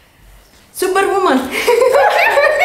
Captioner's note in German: Kichern